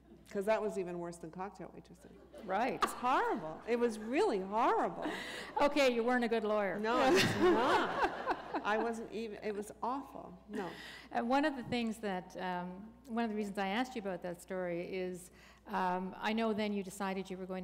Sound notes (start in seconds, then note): 6.9 laughter